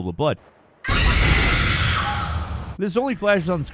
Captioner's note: screaming